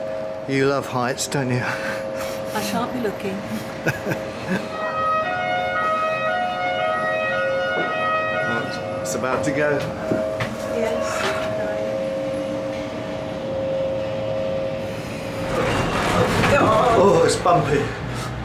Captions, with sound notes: - You love heights don't you? - I shan't be looking. (siren) - It's about to go. Ooh, its bumpy!